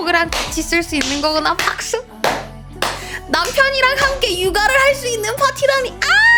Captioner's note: applause